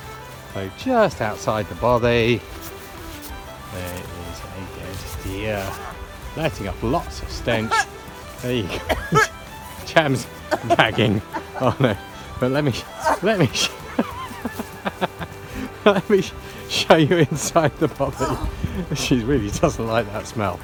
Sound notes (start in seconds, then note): 8.7 cough